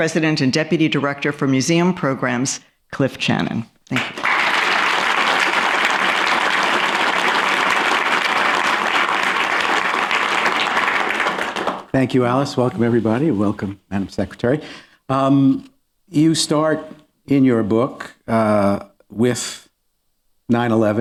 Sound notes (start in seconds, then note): 3.9 applause